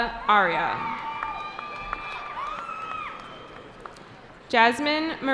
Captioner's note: cheering